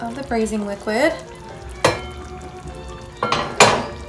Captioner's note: sauce bubbling